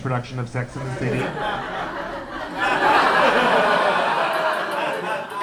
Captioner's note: laughter